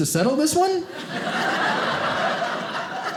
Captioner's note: audience laughing